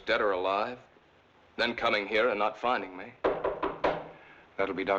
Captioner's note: knock On Door